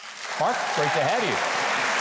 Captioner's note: audience applauds